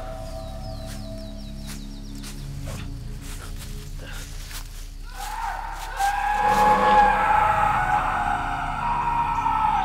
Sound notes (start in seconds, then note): 0.4 birds chirping; 5.0 screaming